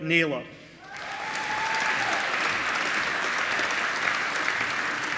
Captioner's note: applause